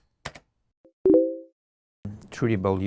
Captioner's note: computer bleep